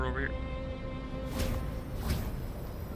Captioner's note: portal whooshes